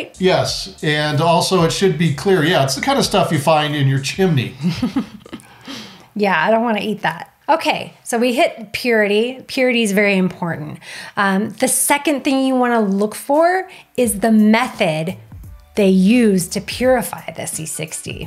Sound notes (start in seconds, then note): 4.4 laughing